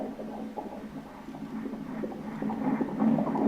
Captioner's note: heart sound